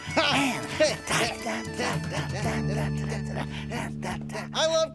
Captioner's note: both humming